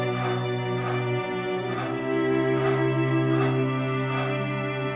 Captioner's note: solemn music crescendos; machine buzzing